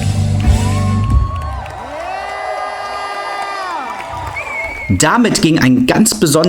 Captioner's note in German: jubel